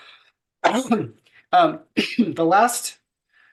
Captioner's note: coughing